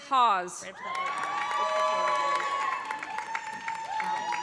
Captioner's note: cheers and applause